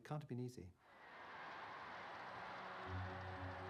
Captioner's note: crowd cheering; slow music